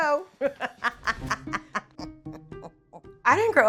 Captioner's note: laughing